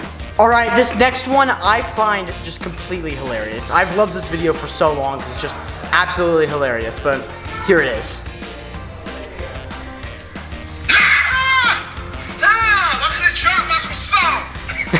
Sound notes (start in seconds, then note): 10.8 screaming; 14.6 laughing